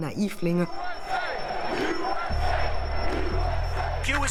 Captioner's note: crowd chanting